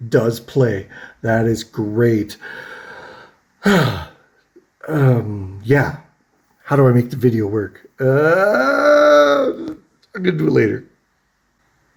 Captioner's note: huffs; hesitant noise